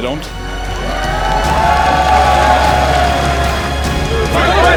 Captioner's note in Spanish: Aplausos